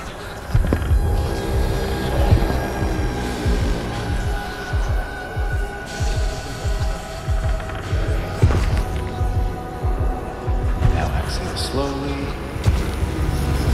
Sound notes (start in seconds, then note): 0.7 demonic Noises; 4.4 slow breathing